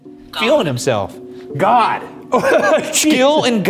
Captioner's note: chuckling